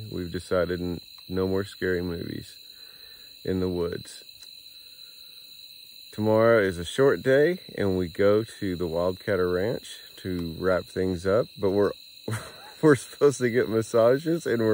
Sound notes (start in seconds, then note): 4.7 crickets chirping; 12.3 laughs